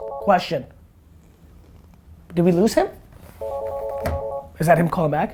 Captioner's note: phone rings